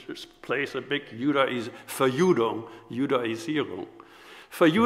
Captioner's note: speaks foreign language